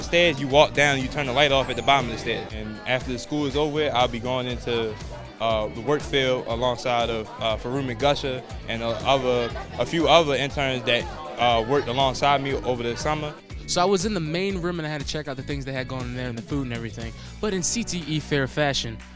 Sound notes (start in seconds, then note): 7.9 murmurs